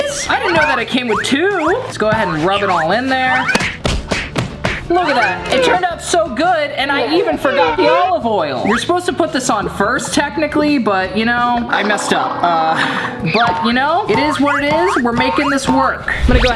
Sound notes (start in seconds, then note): 3.1 meat thumps